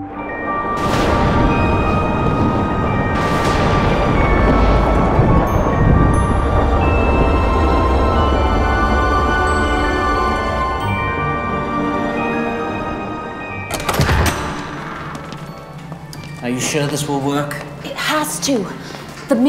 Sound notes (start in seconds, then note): 13.6 door creaks open